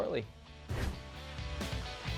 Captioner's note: upbeat music; swooshing